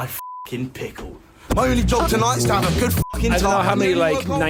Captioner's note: beeps; beeps